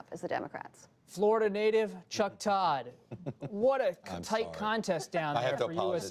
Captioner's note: laughter